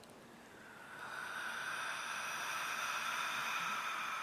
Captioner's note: deep breathing